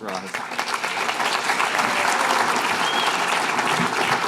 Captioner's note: applause